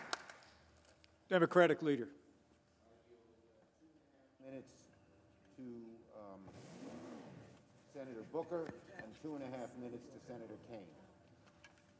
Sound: applause

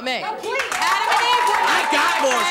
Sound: audience clapping and murmuring

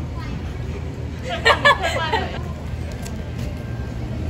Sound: laughter

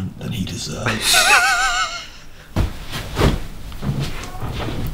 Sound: laughter

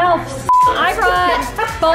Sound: beep; crowd chatters

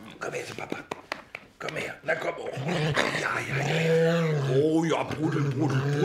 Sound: Marti grunts

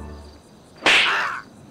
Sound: slap

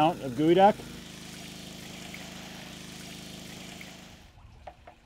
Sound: engine chattering

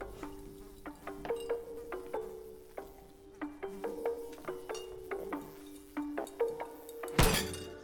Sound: fly buzzing

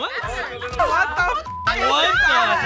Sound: beep

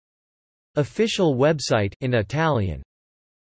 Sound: in Italian

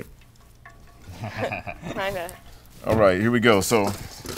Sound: everyone laughing

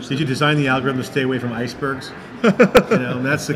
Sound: laughing

